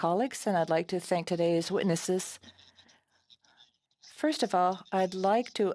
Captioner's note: speaking French